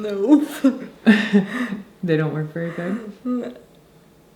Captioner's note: laughing